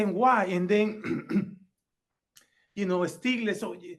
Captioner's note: clears throat